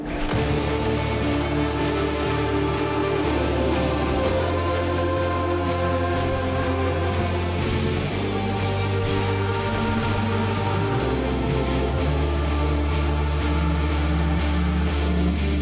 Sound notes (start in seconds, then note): 0.2 rock music; 4.1 muted gunfire; 9.7 crash